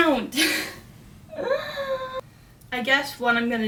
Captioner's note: sounds of being overwhelmed